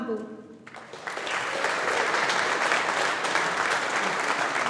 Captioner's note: audience applauding